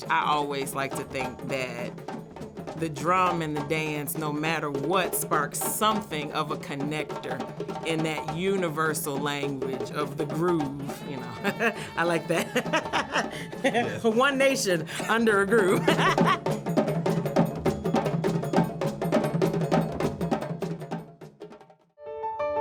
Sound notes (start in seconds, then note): 10.9 laughs; 13.0 both laugh; 16.0 both laughs